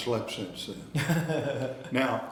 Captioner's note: interviewer laughing